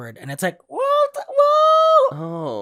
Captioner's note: high-pitched Filipino accent